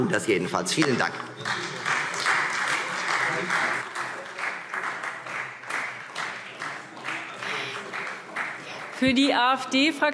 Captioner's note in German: Beifall Freie Demokraten